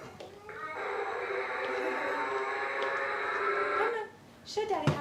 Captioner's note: electronic whirring